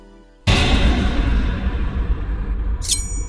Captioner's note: intimidating door sound